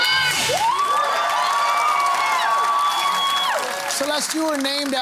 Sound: cheering and applause

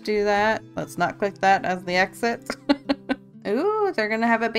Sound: laughs

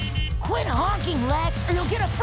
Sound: honking

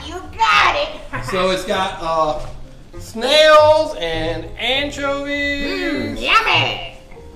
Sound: voiceover

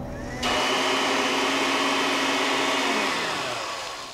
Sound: blender whirs

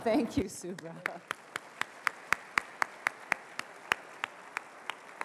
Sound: applause

